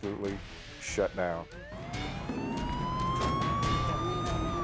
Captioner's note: siren blaring